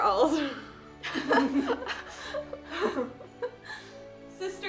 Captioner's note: Emma and Bailey laughing